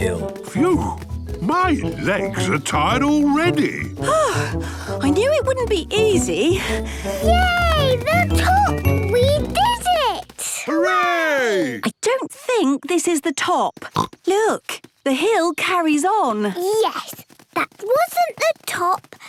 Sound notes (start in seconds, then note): 4.0 panting; 13.8 snorts